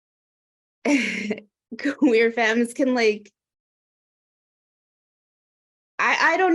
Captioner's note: laughs